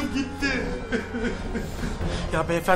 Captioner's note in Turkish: ağlama sesi̇